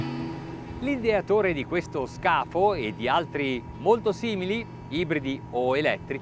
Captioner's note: speaks in foreign language